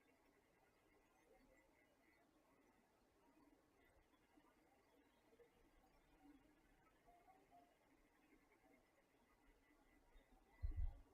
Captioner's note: silence